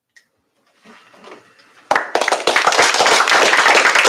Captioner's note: applause